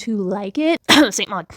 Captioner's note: cough